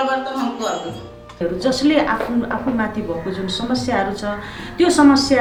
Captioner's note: in Nepali